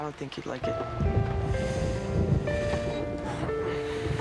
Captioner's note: thunder